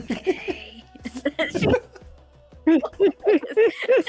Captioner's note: laughter